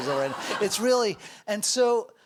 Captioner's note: audience laughs